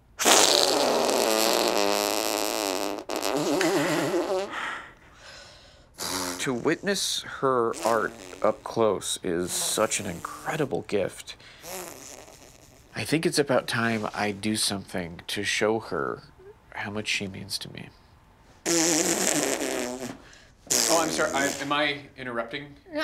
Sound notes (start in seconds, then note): 0.1 farting noises; 18.6 farting noises